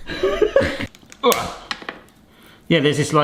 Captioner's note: coconut snapping